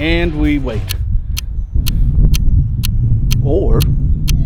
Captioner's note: clock ticking